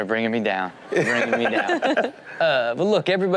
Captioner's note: all laugh